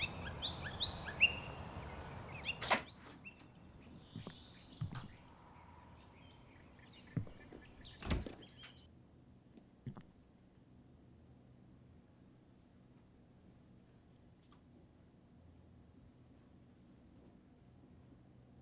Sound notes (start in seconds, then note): 0.0 birds chirping; 3.3 door opens